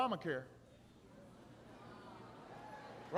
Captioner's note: laughter